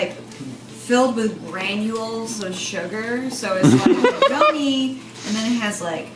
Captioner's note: laughs